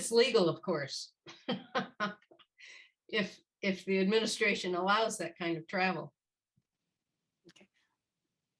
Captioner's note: laughter